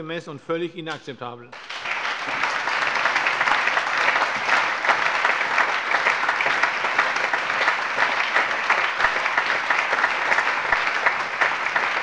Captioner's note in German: Lebhafter allgemeiner Beifall